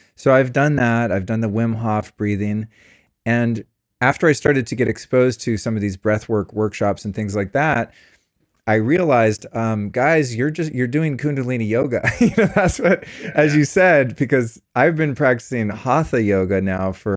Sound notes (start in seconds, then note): 12.0 laughs